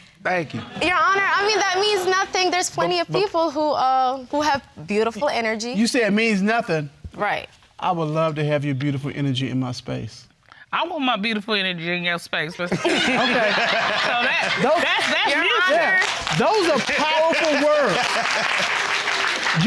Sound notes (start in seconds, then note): 12.7 audience laughs; 16.2 laughing; 18.0 audience clapping